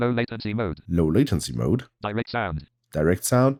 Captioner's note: automated voice